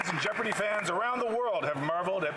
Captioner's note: some Applause